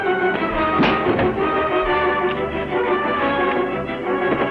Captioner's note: punch lands